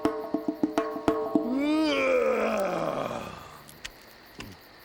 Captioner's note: yawning